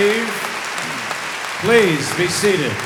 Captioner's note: audience applauding